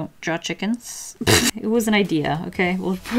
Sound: pfff

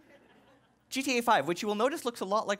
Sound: laughing

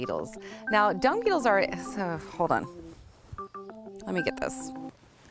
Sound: phone still ringing; sighs

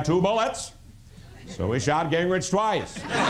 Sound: laughter

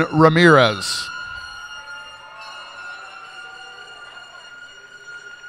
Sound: cheers and applause

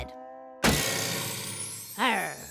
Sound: clank

